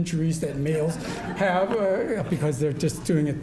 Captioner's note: audience laughing